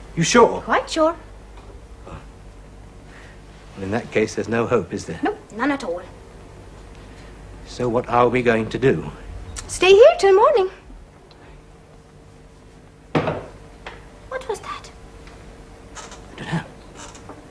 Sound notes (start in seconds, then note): 13.2 banging